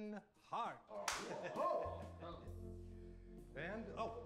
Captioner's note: laughing